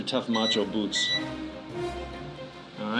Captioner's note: beeps